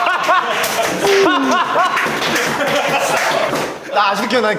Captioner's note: his lonely cry